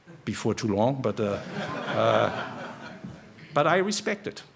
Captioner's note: laughter